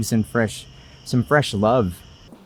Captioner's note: none